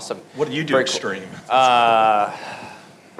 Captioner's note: laughing